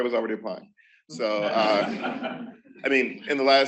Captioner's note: laughter